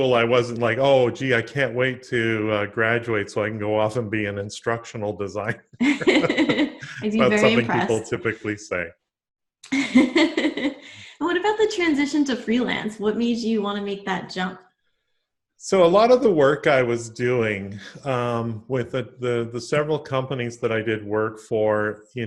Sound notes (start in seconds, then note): 5.8 both laugh; 9.7 laughs